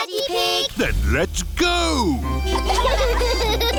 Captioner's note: giggling